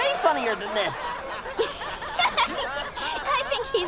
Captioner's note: laughing